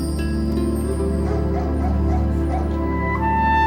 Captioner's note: dog barking